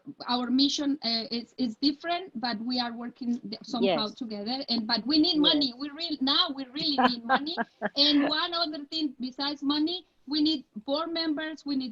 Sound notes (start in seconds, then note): 6.8 laughing